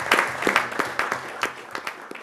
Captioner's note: applause